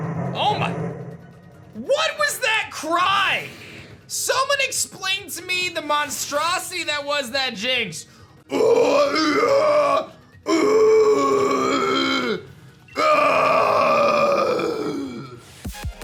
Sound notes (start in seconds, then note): 0.0 growls; 8.2 growls; 15.6 introduction music